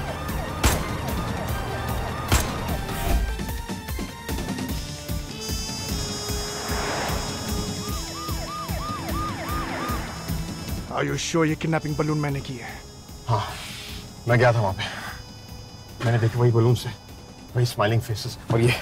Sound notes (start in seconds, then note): 6.2 Car speeding; 7.7 Siren wailing